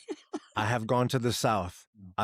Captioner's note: laughing